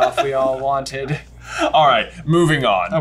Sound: laughing

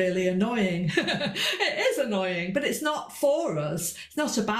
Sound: laughs

